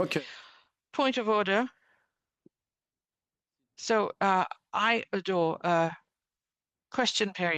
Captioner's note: speaking French